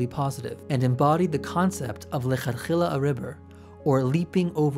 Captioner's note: speaks Hebrew